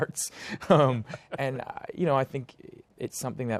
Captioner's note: laughs